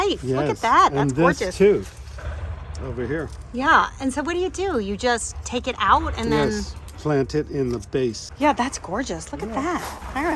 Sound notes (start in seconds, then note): 0.1 plant rustling